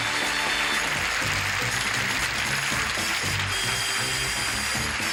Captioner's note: audience applause